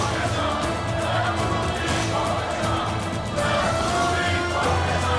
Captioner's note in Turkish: Hep bir ağızdan